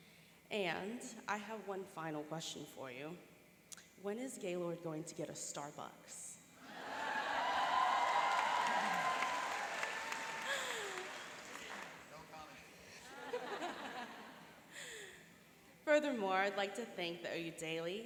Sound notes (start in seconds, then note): 6.6 cheering and applauding; 13.0 laughing